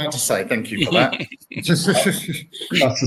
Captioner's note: laughs